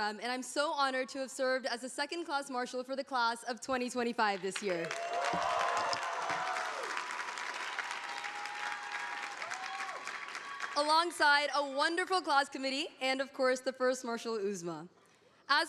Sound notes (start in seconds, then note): 4.8 audience applauding